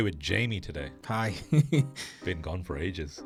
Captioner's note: laughs